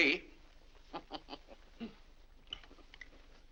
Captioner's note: laughs; chuckles